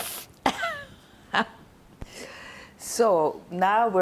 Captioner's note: laughing